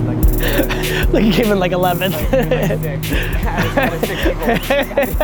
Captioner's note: Gary laughing